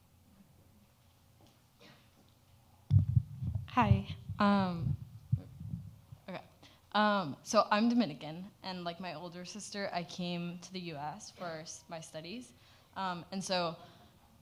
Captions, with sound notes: (microphone pops) - Hi. Okay. So, I'm Dominican, and, like my older sister, I came to the U.S. for my studies, and so,